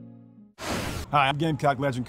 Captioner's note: air rushing